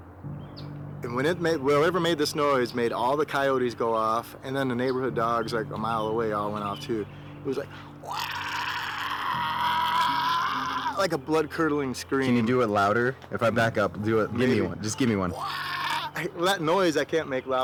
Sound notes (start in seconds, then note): 7.5 mimic deep grunting; 15.3 grunting